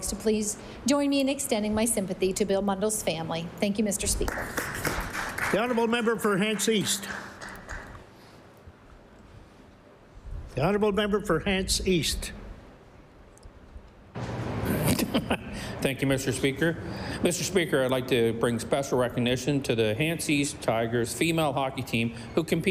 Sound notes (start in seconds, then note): 7.4 applause